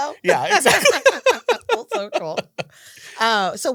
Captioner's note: laughter